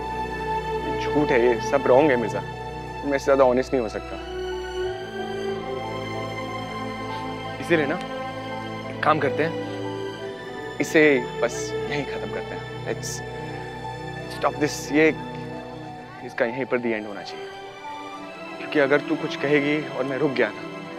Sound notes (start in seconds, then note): 7.0 Sniffs